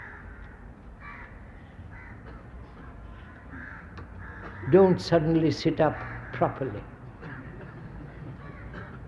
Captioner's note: laughter